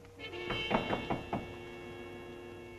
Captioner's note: knocking on door